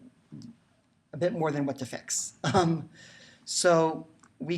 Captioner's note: chuckles